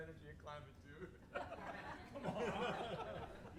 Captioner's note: everybody laughs